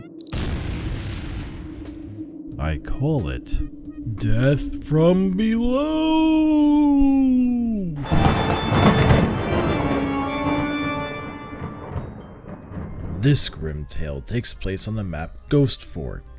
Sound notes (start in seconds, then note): 0.1 bomb beeps; 0.2 explosion; 4.1 in an exaggerated spooky voice; 8.1 thunderclap